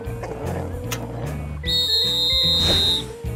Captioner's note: whistle blows